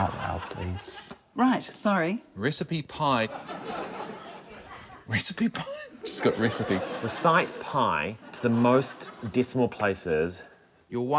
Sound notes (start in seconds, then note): 0.0 laughter; 3.4 chuckles